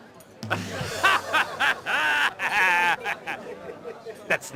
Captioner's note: laughs